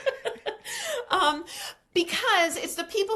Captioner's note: laughs